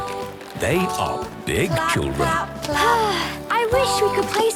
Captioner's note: Belinda sighing